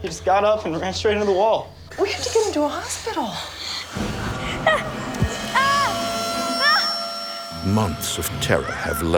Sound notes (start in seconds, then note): 3.1 Timmy screaming